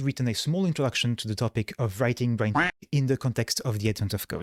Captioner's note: duck quack